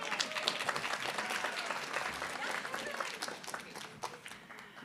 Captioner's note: applause